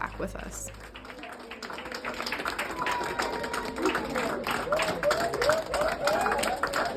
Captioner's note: hospital staff claps and whoops